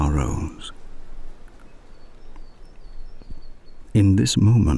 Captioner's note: wind and birdsong